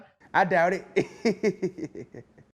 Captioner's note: laughter